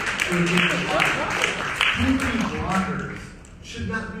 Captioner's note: audience applauding